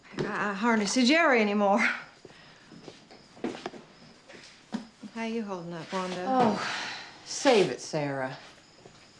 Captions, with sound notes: I hardly see Jerry anymore. How you holding up, Wanda? (Wanda sighs in frustration) - Save it Sarah.